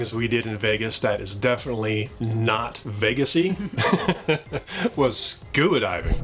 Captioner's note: chuckles